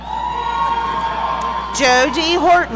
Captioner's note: audience cheering